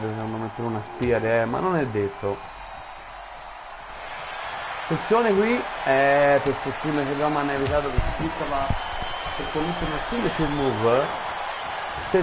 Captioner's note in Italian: Applauso